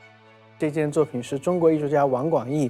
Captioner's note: Mandarin